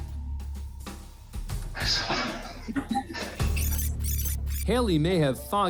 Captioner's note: chuckling